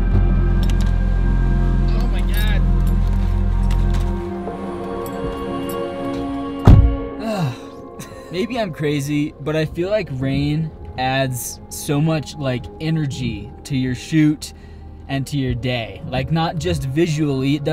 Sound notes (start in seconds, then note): 0.2 car door opening; 6.5 intense upbeat music; 6.6 car door closing; 7.9 laughs